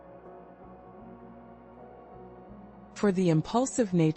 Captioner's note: pause